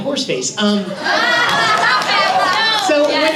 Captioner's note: laughter